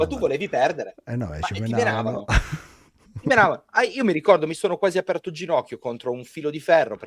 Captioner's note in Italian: risate